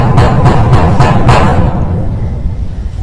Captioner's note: bang!